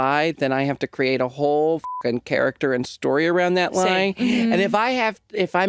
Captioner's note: beep